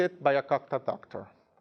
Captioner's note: speaking in a foreign language